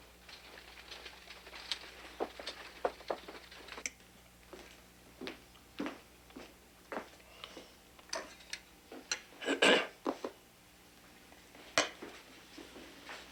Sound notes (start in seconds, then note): 0.0 wagon rattling; 9.4 Augustus clearing throat